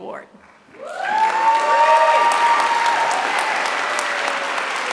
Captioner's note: applause